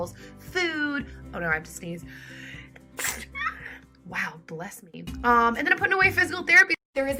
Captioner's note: sneezes